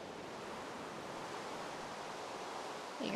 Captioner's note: rain in background